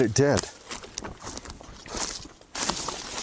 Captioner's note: footsteps